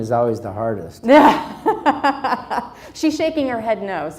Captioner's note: laughs